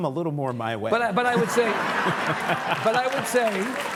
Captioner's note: audience laughing and clapping